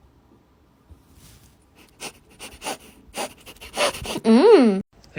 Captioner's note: heavy frantic sniffing